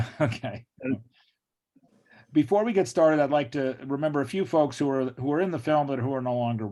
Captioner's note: laughs